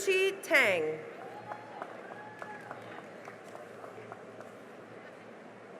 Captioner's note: cheering and applause